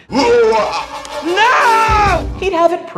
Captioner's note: evil laughter